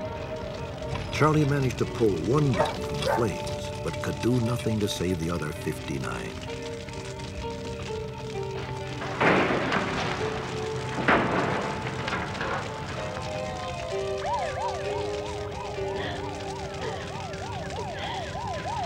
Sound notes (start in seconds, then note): 13.0 sirens; 15.8 sobbing